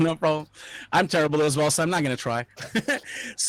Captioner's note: laughing